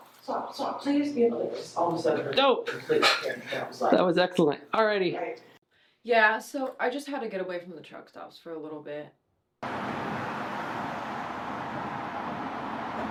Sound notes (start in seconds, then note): 0.2 indistinct chatter off-camera; 9.6 traffic hums